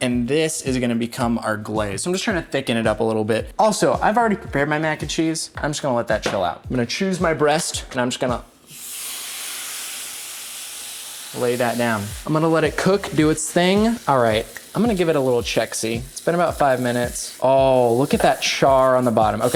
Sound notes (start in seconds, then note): 8.7 chicken sizzling